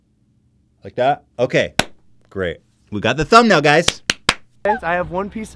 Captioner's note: claps